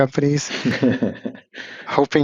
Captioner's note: laughs